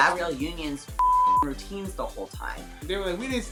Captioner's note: beep